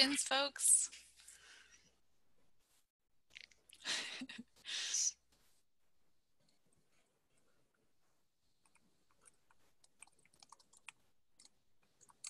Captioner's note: laughter